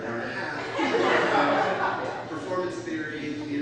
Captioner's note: audience laughs